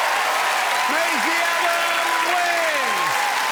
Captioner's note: applause